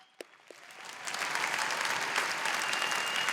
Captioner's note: applause